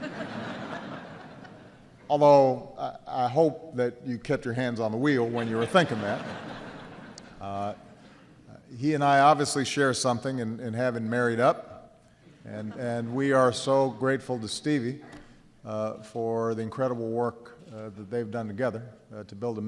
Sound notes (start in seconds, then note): 0.0 laughter; 7.4 laughter